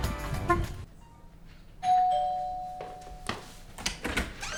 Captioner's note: doorbell